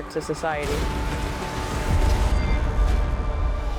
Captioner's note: explosion